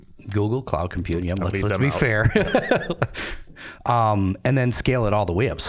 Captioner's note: laughing